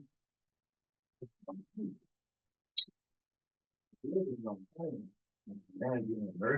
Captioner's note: presenter speaking faintly off mic